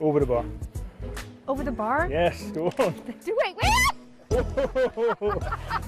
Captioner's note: laughing